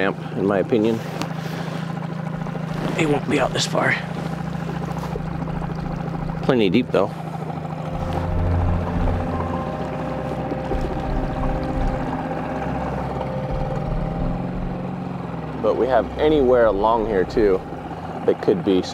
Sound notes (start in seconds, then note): 9.1 boat spluttering; 9.1 somber music